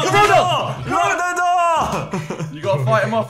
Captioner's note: laughing